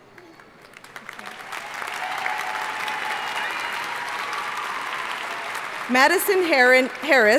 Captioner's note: audience cheering and applauding